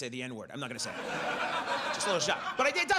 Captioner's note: audience laughs